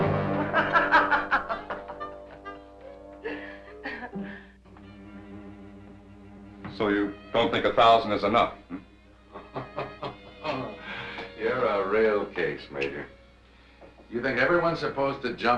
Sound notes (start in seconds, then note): 0.4 Laura laughing; 9.2 Faust laughing